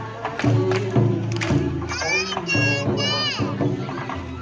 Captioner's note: claps